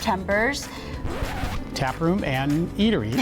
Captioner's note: record needle scratches